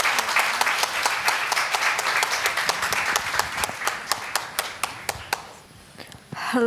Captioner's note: applause